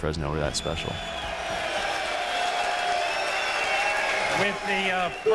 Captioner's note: crowd Cheering